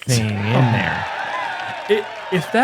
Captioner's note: cheering